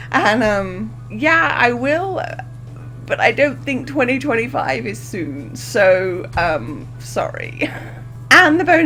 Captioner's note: laughs; laughs